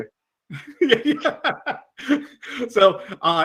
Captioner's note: laughs